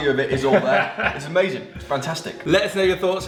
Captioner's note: laughs